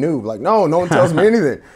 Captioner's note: laughing